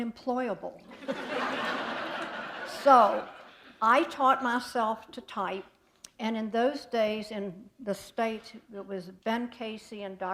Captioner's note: laughter